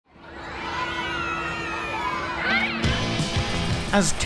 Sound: children cheering

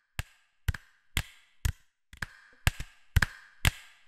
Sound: one person claps

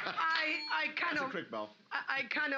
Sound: loudly laughing; bell softly chimes

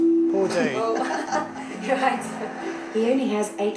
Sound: laughter

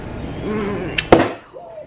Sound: smooch

